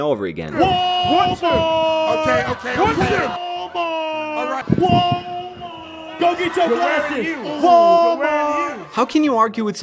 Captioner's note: yelling x5